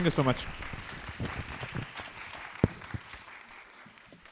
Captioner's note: applause